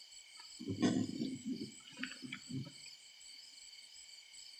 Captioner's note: rustling and rumbling